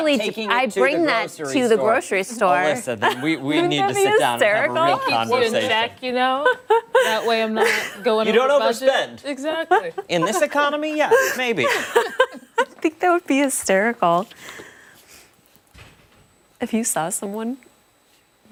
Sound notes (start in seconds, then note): 13.5 laughter